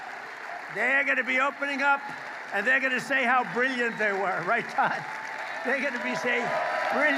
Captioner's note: applause